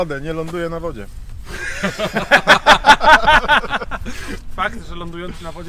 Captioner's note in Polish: śmiech